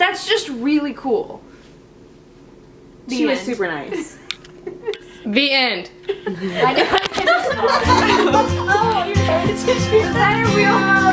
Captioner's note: laughter